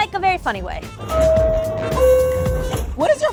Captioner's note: train bell dinging